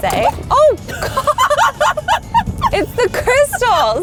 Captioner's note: both laughing